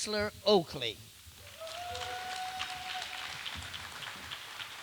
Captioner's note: applause